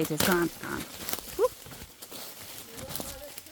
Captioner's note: sticks snapping